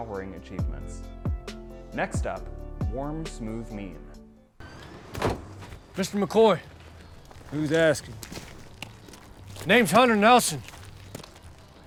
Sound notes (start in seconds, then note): 4.6 door creaking; 4.7 door slamming shut